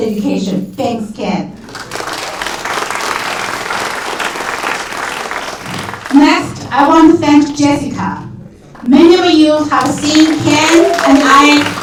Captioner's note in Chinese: 掌声